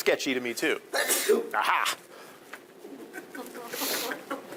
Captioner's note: student sneezing; audience laughing